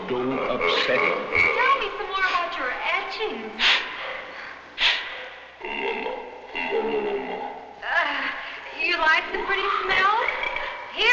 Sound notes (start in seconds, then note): 0.1 laughing; 3.5 sniffing; 5.9 speaking in a foreign language